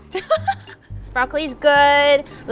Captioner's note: laughs